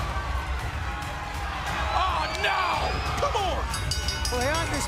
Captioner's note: crowd cheering